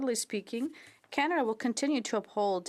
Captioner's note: speaking French